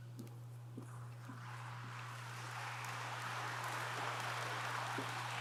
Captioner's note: audience applauds